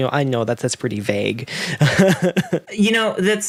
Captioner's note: laughs